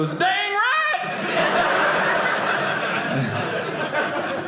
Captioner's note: audience laughing